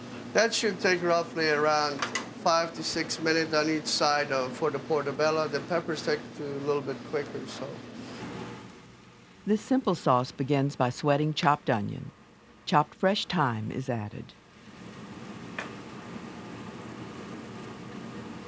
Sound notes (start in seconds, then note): 9.3 voiceover